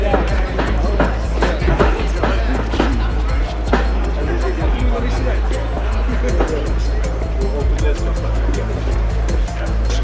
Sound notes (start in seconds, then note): 1.2 octagon canvas thudding